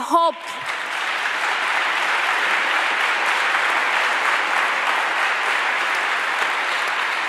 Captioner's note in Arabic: الجمهور يصفق